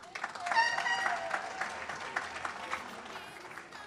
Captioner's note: audience cheers